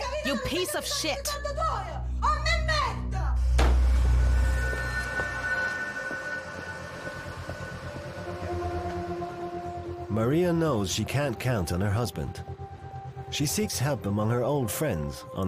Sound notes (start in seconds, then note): 1.8 speaking in Italian; 4.2 brooding music